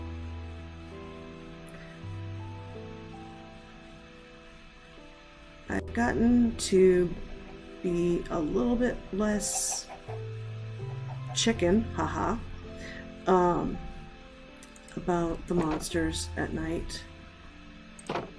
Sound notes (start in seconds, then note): 13.1 haha